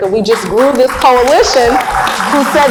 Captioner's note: applauds; cheers